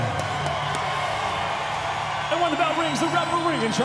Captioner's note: cheering